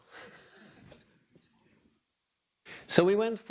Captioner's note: laughter